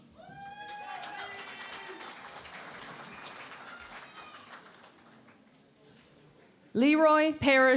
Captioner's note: cheering and Applause